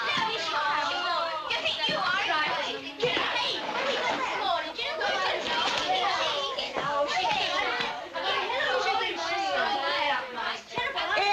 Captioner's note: all chattering indistinctly